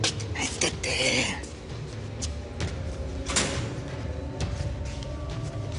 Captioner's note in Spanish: Ruido al cerrar